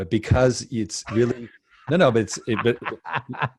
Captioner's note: laughs